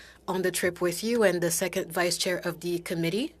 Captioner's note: speaking French